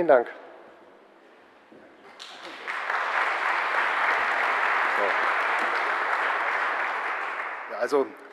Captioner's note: general applause